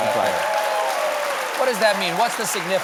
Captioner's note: applause